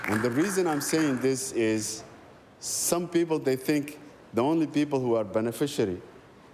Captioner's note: applause